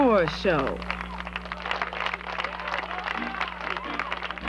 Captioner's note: hands clapping